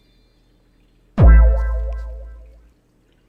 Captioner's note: sound effects & silence